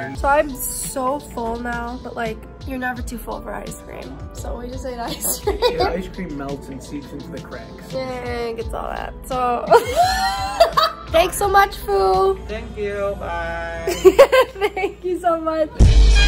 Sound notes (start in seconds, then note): 9.7 laughing; 15.7 high energy music